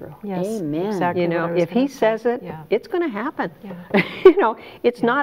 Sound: chuckles

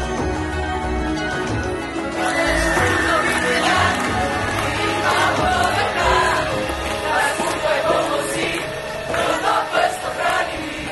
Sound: cheering/Applause

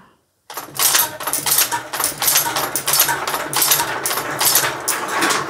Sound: gates clicking, marbles clicking and rolling

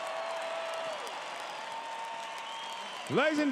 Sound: crowed cheering

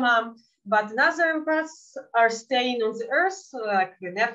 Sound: speaking in Yiddish

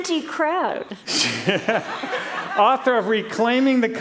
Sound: laughter

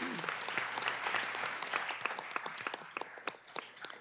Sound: applause

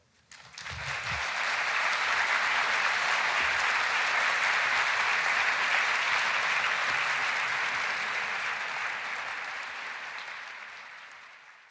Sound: applause

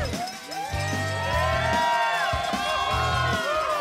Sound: cheering

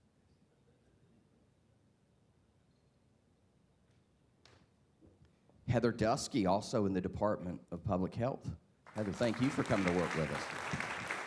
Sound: applause

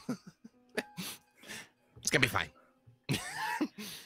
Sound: laughs

